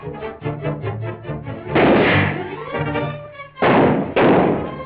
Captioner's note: gunfire